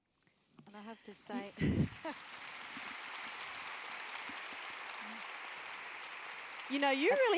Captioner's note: applause